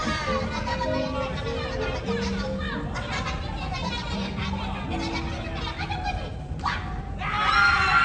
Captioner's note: audience Laughing; foreign talking; laughing